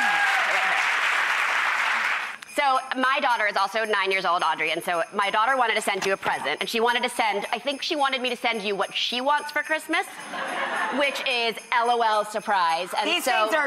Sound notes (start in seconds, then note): 0.0 audience applauds; 10.3 audience laughs